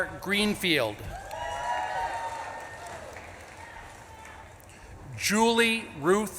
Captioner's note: audience claps and cheers